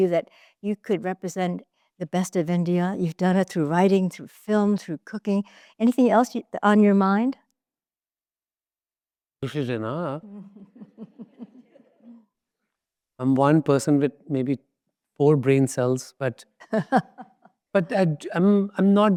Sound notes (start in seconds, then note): 10.8 audience laughs; 16.6 laughs